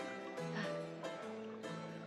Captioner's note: sighs